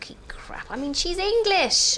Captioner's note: none